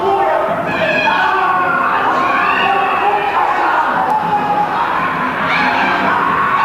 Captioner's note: various screaming